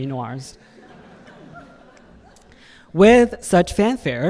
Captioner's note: audience laughing